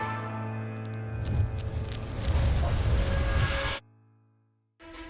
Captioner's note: fire whooshes; dramatic music